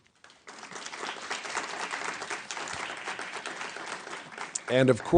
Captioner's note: applause